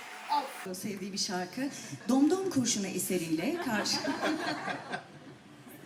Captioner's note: laughter